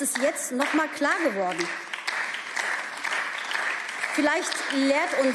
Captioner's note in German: Beifall